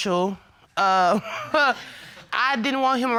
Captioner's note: scoffs